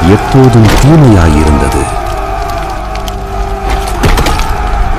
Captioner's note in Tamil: அலறுதல்